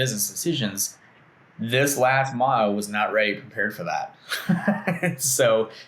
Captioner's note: laughs